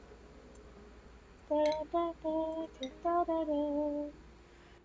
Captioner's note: humming